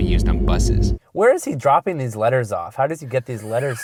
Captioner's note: voiceover